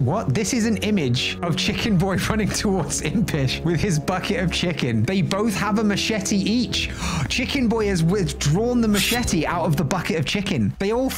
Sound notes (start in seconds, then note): 6.9 gasp